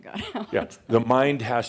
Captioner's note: she chuckles